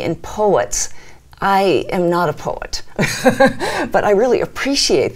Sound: laughs

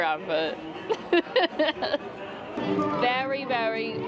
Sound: laughs

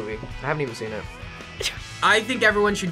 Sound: laughs

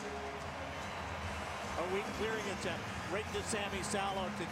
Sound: cheers, applause

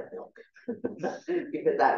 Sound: chuckling

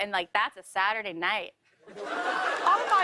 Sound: laughter

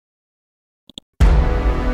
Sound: mouse clicks; dramatic chord

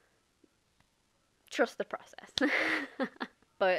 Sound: laughs in awkward

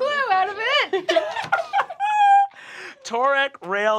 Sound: laughing

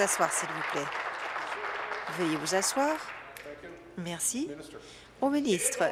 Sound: applause

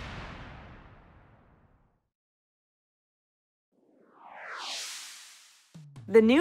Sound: whoosh sfx

